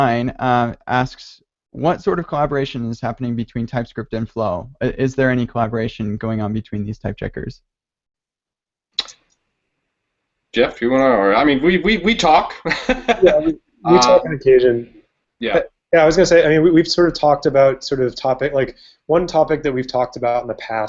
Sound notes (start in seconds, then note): 12.5 chuckles